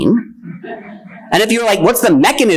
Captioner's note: attendees laughing